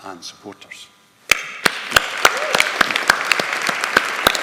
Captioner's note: audience applauding